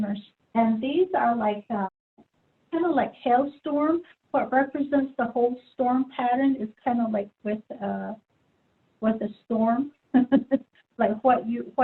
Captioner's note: laughs